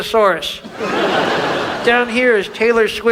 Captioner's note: audience laughs